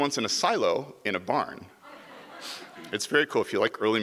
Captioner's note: audience laughs